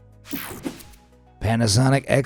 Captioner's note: soft upbeat music; air whooshing